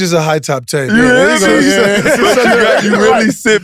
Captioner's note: laugh